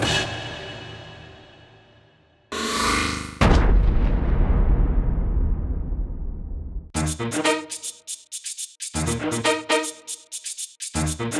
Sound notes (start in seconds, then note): 3.4 boom!